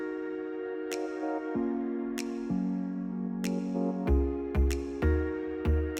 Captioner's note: cracks knucles